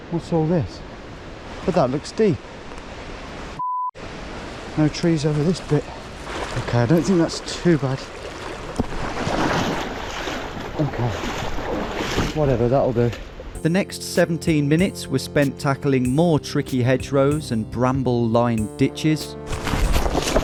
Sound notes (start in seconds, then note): 3.6 beep